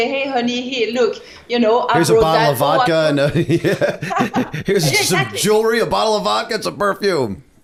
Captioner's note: laughter